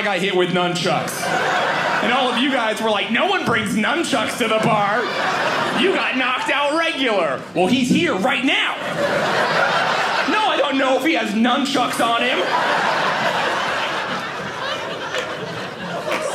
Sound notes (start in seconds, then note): 0.9 audience laughing; 4.9 audience laughing; 8.9 audience laughing; 13.0 audience laughing